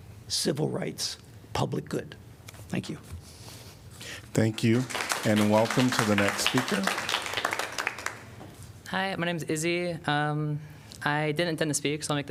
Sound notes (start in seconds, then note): 4.4 applause